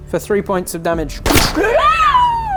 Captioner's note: bang!